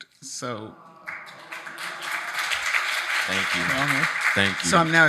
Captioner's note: audience applauding